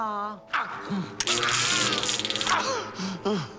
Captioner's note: zapping, screaming